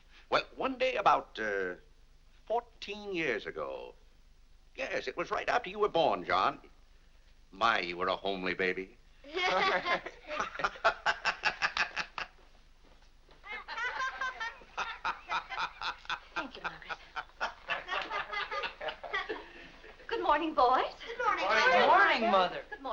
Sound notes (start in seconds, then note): 9.3 laughing; 13.5 boys and Mr. Day laughing